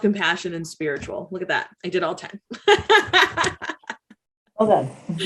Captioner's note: laughs